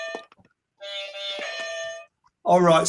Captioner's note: horn honking; bell ringing